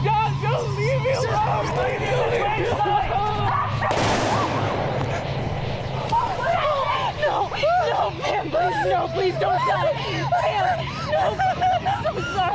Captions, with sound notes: Guys don't leave me alone! (shouting) (gun firing) - Oh, no, no, no! Pamela no please don't die! (whimpering) (sobbing)